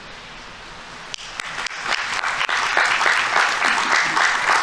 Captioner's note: audience applauding